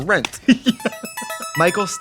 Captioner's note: laughing; musical flourish